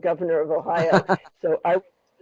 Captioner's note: chuckles